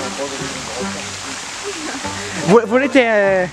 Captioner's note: laughs